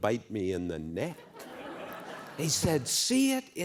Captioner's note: laughter